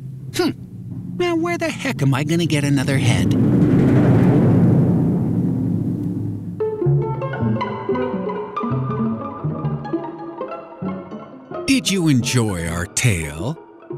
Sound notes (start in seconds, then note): none